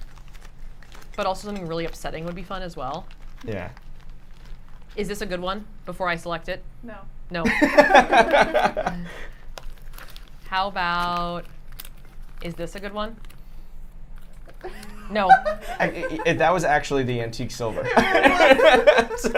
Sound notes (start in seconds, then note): 7.4 laughter; 14.6 laughs; 17.7 laughter